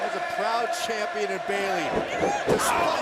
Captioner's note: crowd cheering